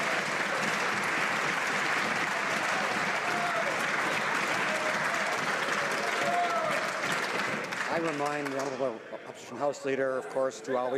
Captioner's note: some Applause